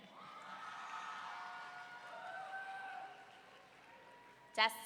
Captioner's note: audience cheering